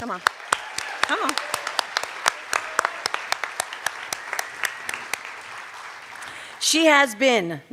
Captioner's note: cheers and applause